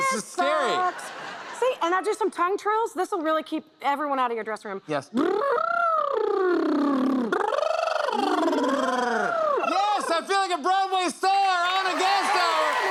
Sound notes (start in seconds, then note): 5.1 trilling tongue; 7.2 both trilling tongues; 11.2 cheers and applause